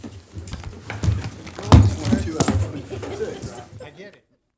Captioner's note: crowd chattering